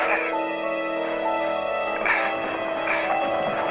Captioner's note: bell